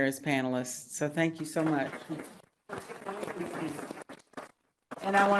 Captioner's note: applause